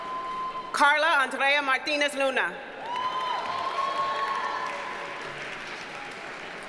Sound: audience cheers and applauds

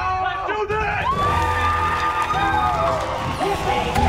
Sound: screaming

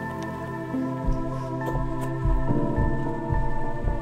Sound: footsteps clomping

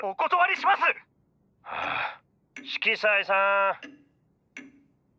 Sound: sigh

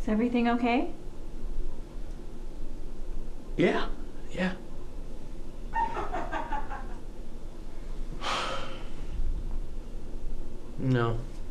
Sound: laughing from other room

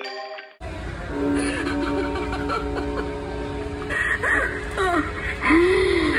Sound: Evelyn sobbing; husband breathing

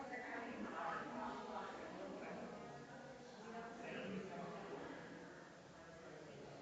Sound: people chattering distantly continues

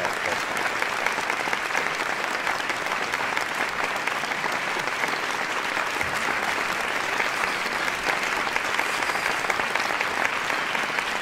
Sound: applause

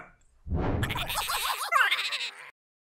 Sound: giggles

